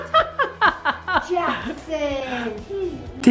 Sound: laughter

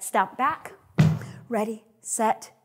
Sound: stamps

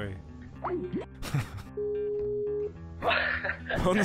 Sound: laughing

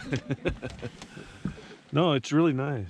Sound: chuckling

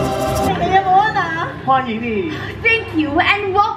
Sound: performers speak in foreign language

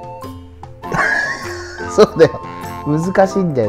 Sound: laughs

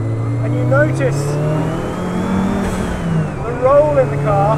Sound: car engine revs

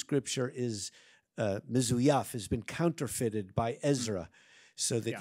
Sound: speaks in Arabic

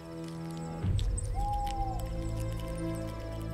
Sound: owl hoots

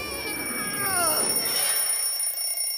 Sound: alarm rings

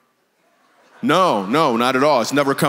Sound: congregation laughs

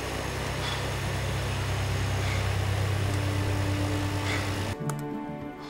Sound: breathing heavily

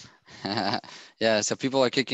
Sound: chuckles

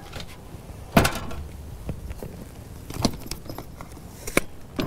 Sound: trunk door clunking

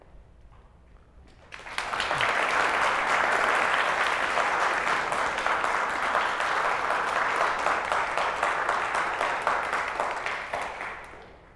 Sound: applause

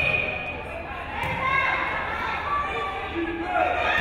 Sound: crowd cheering

